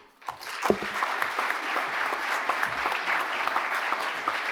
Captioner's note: audience applauding